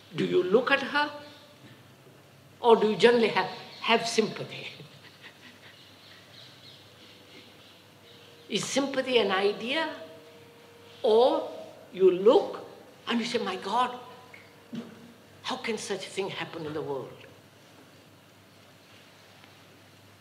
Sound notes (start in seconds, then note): 4.6 laughs